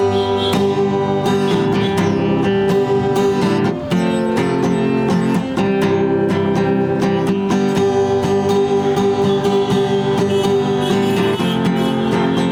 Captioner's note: crowd cheering